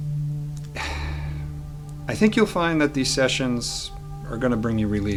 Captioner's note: sighs